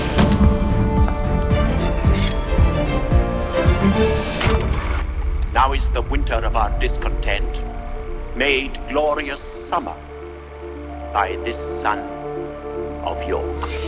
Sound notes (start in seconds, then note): 0.0 door opening; 1.0 footsteps approaching; 2.0 sword unsheathes